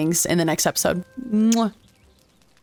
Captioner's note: kiss